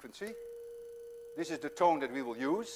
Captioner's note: plays high tone